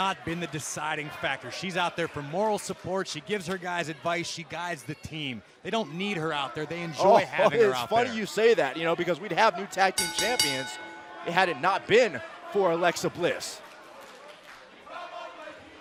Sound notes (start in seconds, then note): 10.0 bell ringing; 15.6 fans chanting